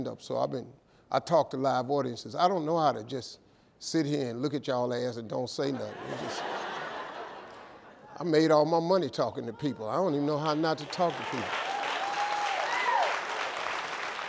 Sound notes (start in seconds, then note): 5.7 crowd laughs; 10.4 crowd cheers